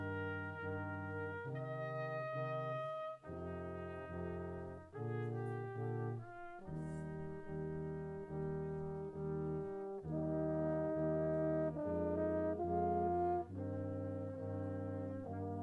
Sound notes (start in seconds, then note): none